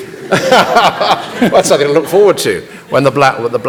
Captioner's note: laughs